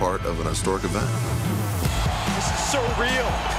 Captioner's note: crowd cheering